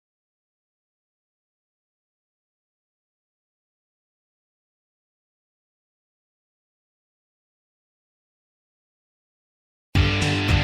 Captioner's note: silence